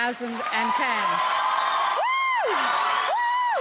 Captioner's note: crowd cheering